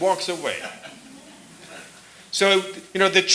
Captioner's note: laughter